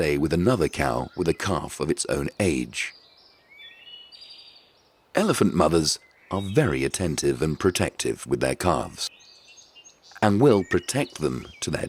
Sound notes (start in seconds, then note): 2.4 birds chirping